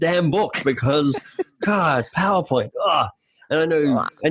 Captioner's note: laughing